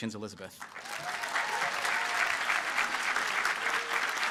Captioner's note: applause